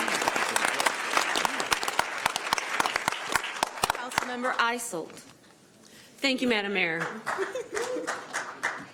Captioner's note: applause